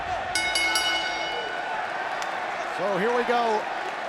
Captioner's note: bell rings